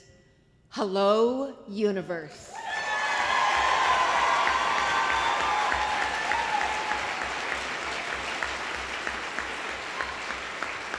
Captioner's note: applause